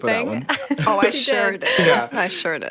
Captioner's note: chuckles